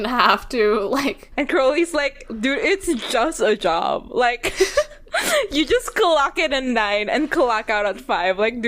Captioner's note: both laugh